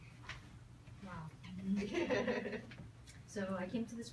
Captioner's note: people chuckle